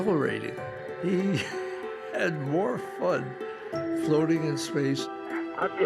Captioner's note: chuckling